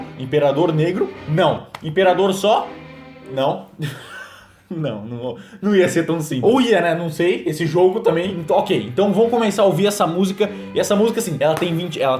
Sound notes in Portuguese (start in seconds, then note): 3.8 Risada